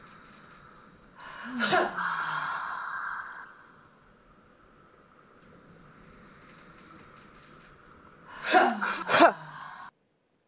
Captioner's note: sighs and 'ha' sounds